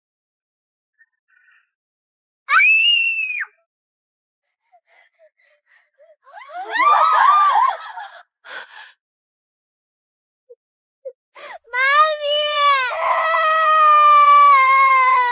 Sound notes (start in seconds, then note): 6.3 crying